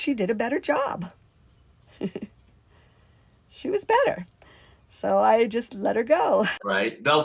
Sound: laughs

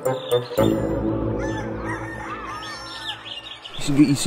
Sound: rooster crowing

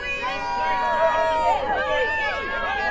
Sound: crowd Cheering

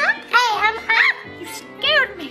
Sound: mom screams

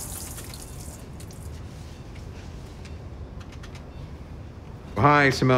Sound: monitors beeping

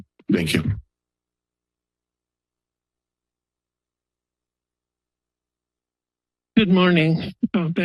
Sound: silence

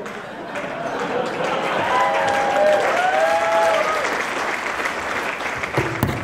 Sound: applause

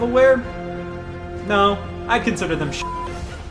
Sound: beep

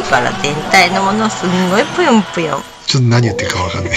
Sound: laughs

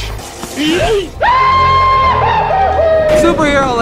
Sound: goofy Scream

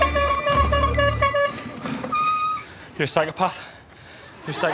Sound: blowing horn and bell

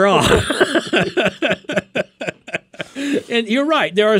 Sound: both laughing

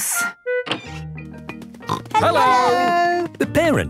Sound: snorting

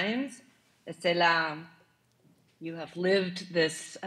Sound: speaking in foreign language

